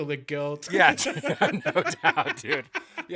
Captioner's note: laughing